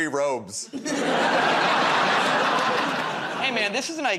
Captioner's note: laughter